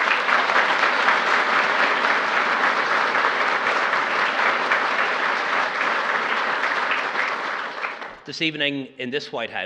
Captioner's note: applause